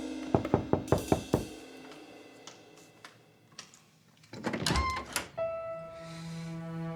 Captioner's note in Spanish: Toques en la puerta